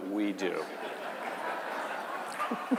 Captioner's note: laughter